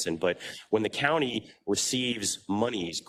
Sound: none

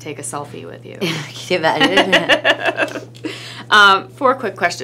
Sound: laughs

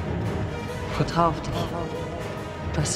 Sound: echoes

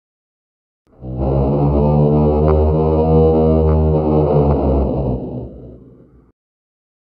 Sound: sound of sea monster

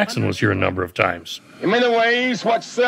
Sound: over a megaphone

